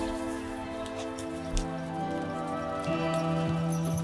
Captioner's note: hooves clomping